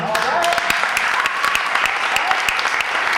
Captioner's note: audience applause and cheers